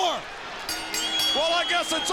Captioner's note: bell rings